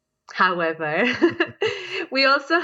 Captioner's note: laughs